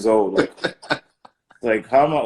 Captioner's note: laughing